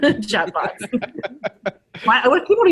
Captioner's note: all laughing